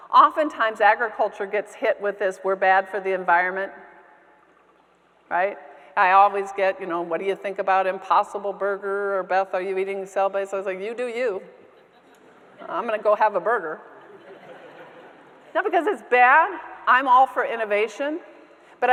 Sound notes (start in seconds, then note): 12.0 audience members laughing; 14.0 audience members laughing